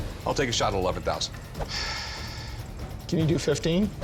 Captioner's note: sighs